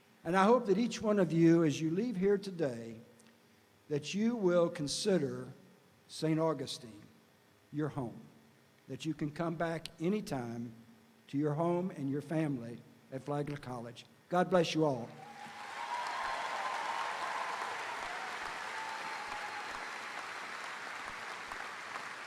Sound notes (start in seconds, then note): 15.1 audience cheering; 15.1 audience applauding